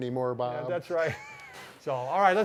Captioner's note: laughing